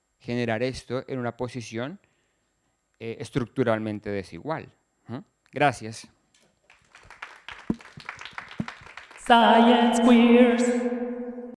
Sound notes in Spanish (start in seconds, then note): 6.6 aplausos